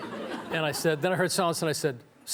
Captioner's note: audience laughing